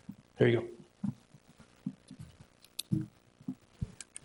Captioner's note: pen clicks